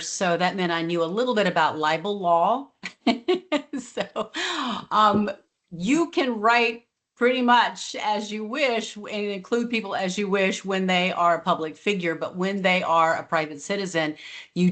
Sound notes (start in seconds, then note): 2.7 laughs